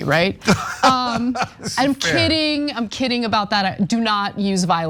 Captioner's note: laugh